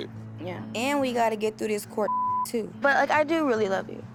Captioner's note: beep